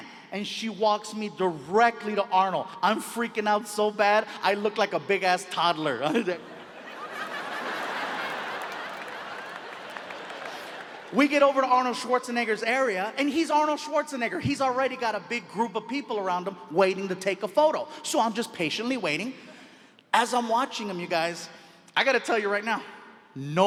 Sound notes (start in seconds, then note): 6.0 audience laughs